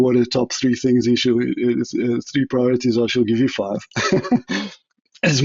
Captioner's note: laugh